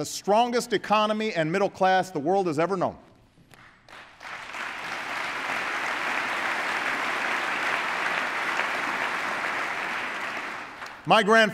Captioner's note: applause